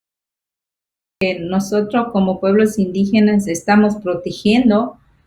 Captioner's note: speaking foreign language